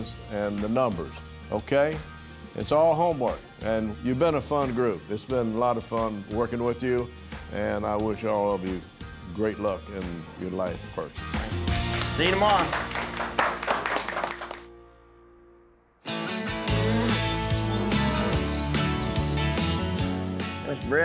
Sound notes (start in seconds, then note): 11.7 applause